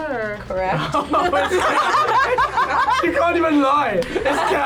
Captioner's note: group laughs